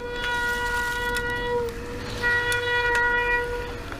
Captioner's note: brakes squealing